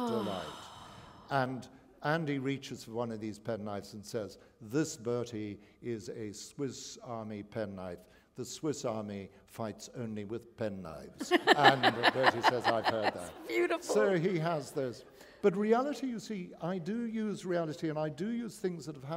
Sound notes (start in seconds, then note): 11.2 laughter